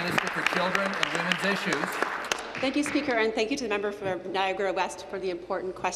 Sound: applause

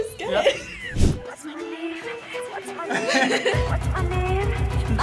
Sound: both laugh

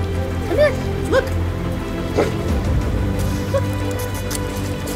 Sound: bark; kissing sounds

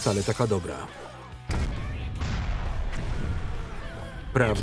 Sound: explosions rumbling

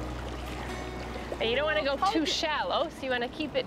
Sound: water gently rippling

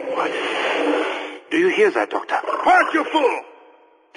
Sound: hellhound spawn noise heard

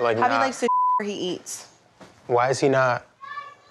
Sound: beep

